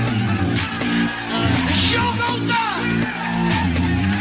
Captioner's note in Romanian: Aplauze